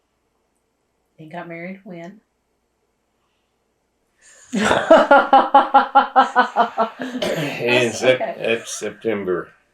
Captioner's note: laughter